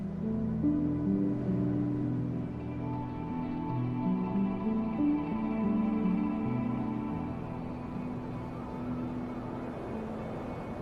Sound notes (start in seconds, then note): 2.5 wind blowing; 5.5 soft music